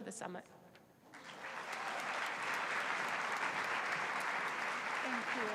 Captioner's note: applause